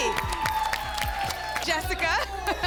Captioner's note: applause